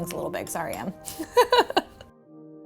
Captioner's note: chuckles